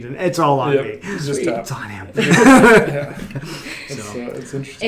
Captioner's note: laughs